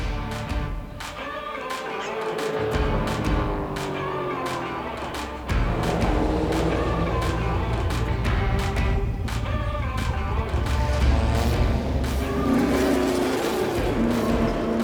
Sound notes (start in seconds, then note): 0.2 energetic music begins; 4.1 car engine roaring